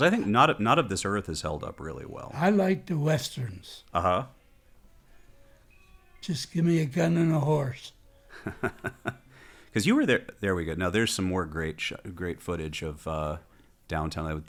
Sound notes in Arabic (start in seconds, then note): 8.3 يضحك